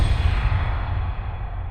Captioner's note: impact